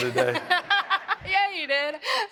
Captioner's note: audience laughs